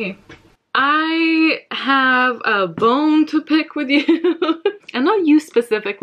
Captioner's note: laughs